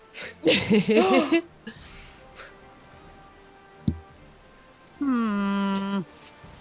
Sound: laugh

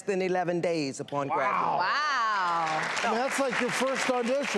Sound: applause

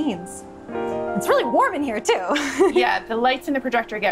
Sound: laughing

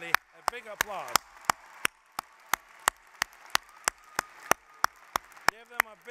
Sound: applause

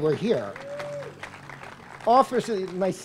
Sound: applause

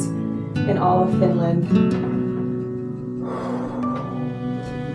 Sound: exhales

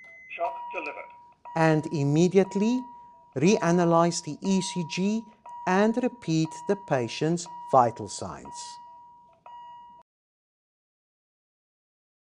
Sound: critical Alarm

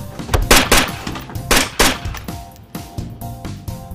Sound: gun firing

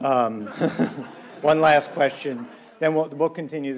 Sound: laughs

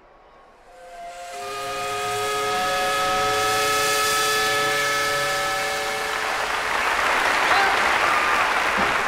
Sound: steam whistle

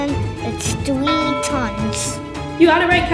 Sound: bell dinging

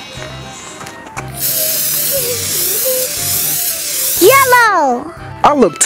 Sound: twinkling; can spraying

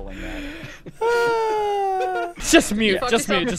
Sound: sighs

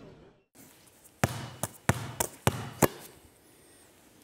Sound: basketball sounds

